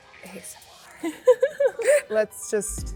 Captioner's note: both giggling